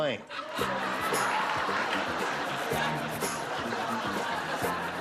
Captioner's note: laughter